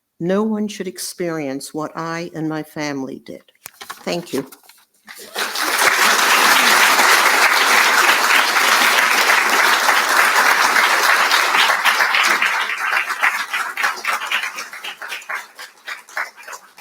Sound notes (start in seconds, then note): 5.5 audience applauding